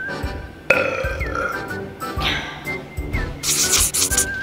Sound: woman belches

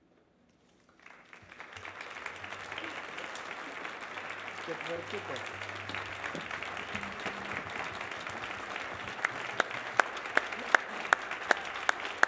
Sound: applause

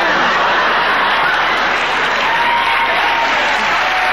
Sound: audience laughing

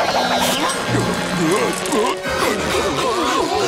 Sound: grunting

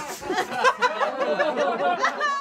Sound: audience laughs; laughter continues

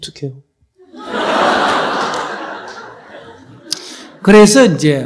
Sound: audience Laughter

